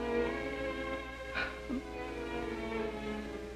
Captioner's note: cries